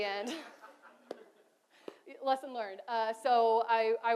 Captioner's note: audience laughs